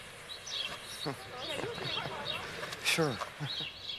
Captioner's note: Carlos chuckling